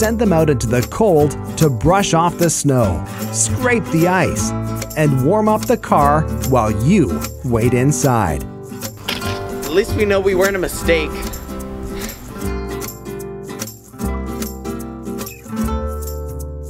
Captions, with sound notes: and send them out into the cold to brush off the snow, scrape the ice, and warm up the car while you wait inside. - At least we know we weren't a mistake. (sighs) (cheerful music)